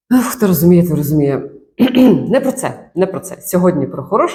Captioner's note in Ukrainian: прочищення горла